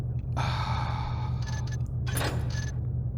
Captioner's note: sighs